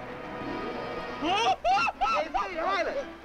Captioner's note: screaming